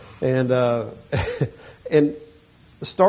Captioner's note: chuckles